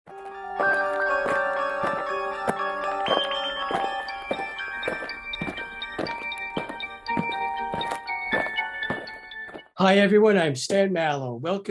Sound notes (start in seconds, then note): 0.1 eerie music; 5.0 alien footsteps